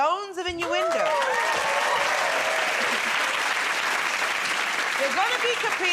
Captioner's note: cheers and applause